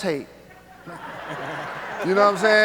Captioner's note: audience laughs